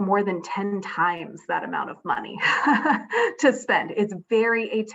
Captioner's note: laughs